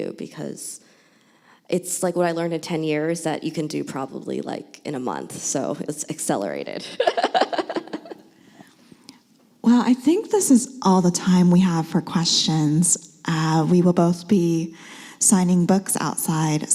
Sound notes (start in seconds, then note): 7.0 laughs